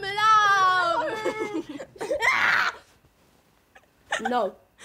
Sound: both giggle and scream

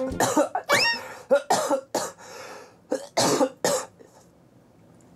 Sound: coughing after his voice-act.sov

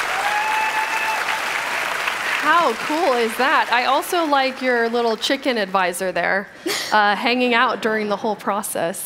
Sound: cheers and applause

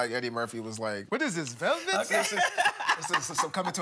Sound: laughing

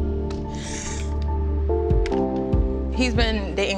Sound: heartfelt music; inhales

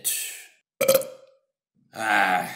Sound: burp

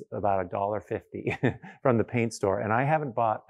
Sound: chuckles

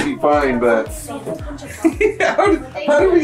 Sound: laughs

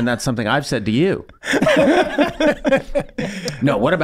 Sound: all laughing

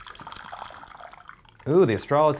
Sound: pouring

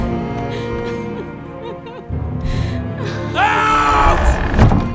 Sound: sobbing

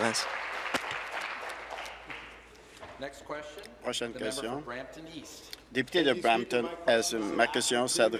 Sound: applause

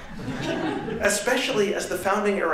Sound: laughter

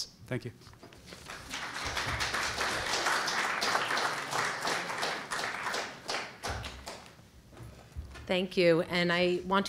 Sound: applause

